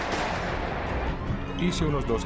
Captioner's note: gunshots